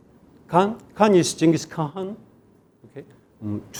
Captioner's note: speaking in Korean